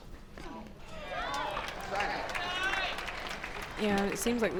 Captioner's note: crowd applauds